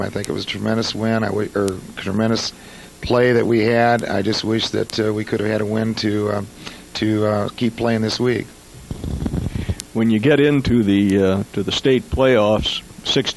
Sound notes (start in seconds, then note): none